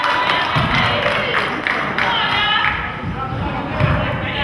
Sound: crowd claps

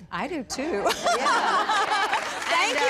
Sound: laughter

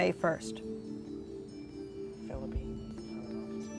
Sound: whispering

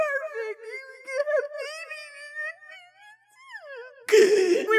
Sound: through tears; blubbering nonsense; sharp inhale

